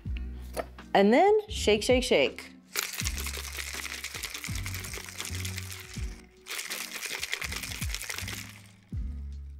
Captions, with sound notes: And then shake, shake, shake. (ice rattling)